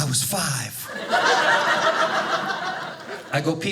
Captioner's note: audience laughing